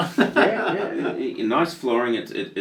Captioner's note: laughing